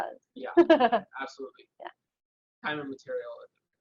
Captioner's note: laughs